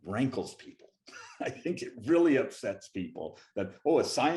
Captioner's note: laughing